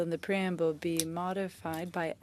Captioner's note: speaking French